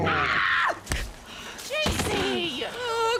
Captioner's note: scream